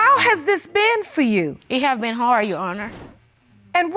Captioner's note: voice breaking